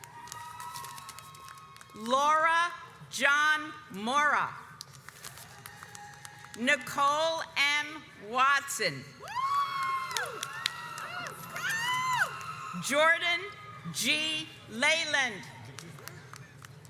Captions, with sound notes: Laura John Mora Nicole M. Watson (audience cheers) Jordan G. Leland